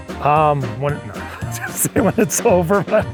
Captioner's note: laughs